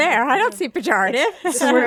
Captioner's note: laughs